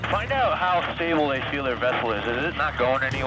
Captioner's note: man On Radio